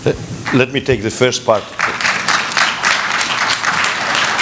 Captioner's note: applause